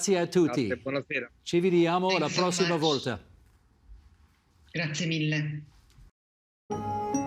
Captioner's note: speaking in italian